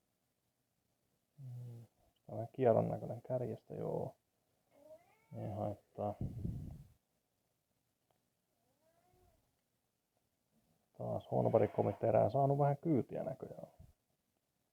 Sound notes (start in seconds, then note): 4.9 meouw!!!!